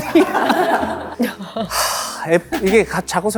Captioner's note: sigh